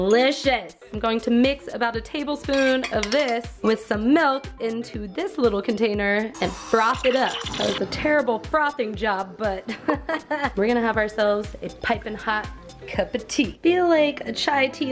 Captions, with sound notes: Delicious. I'm going to mix about a tablespoon of this with some milk into this little container and prop it up. That was a terrible frothing job, but (laughing) We're gonna have ourselves a piping hot cup o'tea. I feel like a chai tea latte